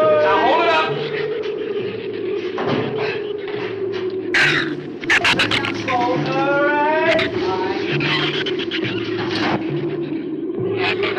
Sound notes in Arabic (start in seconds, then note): 4.3 زئير الزبابة